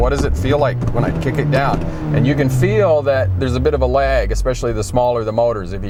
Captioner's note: rev